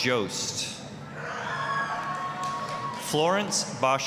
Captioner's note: applause, cheering